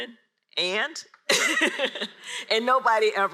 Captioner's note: laughs